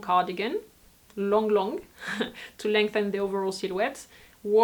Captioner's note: laughs